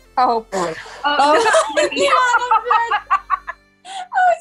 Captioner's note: laughing